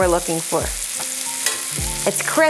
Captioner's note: butter sizzling